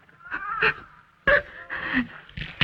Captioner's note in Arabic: امرأة تبكي